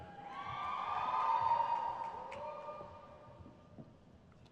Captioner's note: crowd cheers